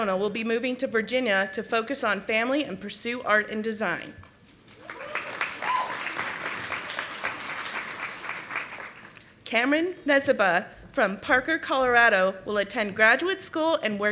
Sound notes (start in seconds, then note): 4.6 audience applauding